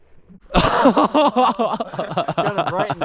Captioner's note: laughing maniacally